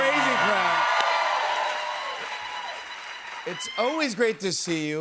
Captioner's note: cheers and applause